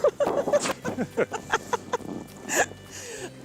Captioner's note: laughs